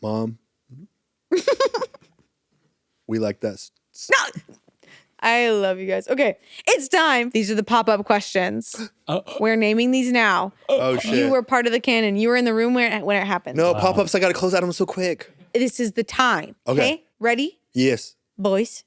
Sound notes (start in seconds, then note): 1.3 giggles; 8.8 gasp